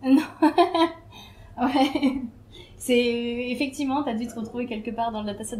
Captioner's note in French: rire